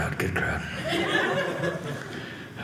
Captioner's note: audience laughing